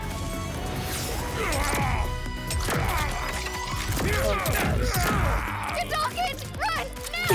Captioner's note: laughs; grunts and electronic sounds